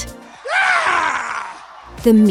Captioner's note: scream